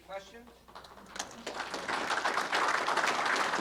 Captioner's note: applause